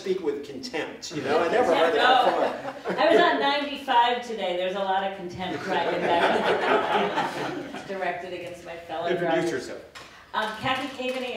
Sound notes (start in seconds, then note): 5.4 laughter